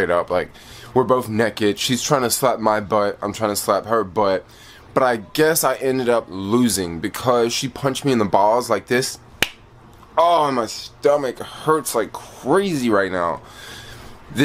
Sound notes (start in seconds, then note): 9.4 fist claps